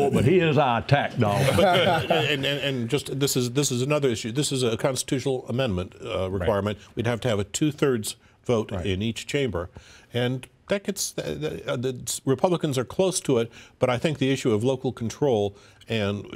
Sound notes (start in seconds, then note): 1.3 laughter